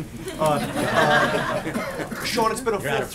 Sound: laughter

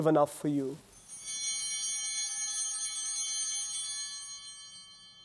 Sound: bell ringing

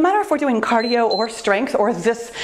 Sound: timer beeps

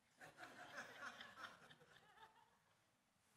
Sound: laughter

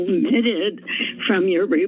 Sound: inhales

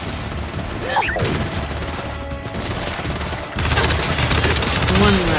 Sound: gunfire

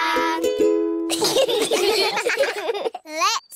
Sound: all giggling

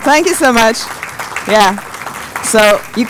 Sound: applause

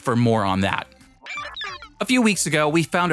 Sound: digital sounds

